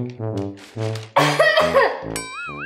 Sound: continues coughing

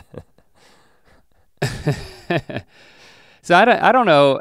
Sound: chuckles

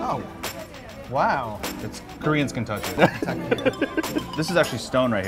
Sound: laughs

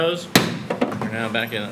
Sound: gavel bangs

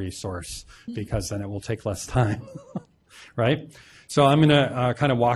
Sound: laughs

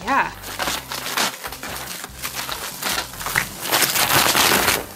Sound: bubble wrap tearing

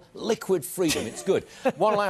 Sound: laughter

